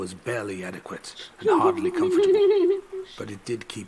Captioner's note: laughs